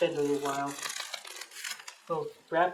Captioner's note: sound of tape being torn off bubble wrap